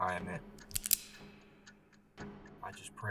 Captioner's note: gun clicks